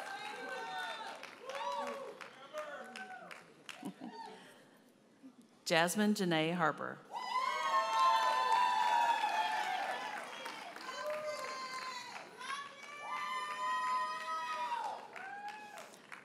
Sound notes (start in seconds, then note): 3.8 chuckles; 7.2 audience cheers and applauds